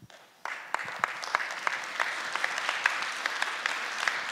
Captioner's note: applause